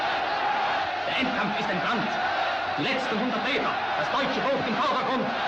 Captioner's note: speaking german